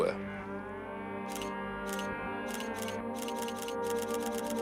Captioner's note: shutter clicks